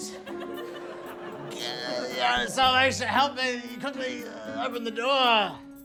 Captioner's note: groans